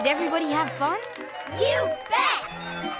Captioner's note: cheering